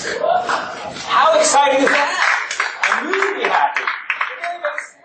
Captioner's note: students cheering